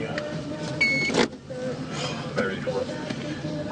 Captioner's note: beep